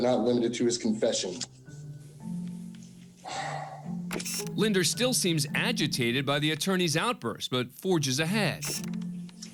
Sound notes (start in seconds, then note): 3.2 sigh